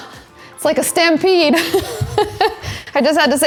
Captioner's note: chuckles